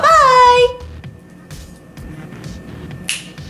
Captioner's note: snaps